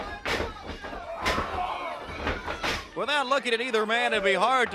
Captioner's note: crowd chatter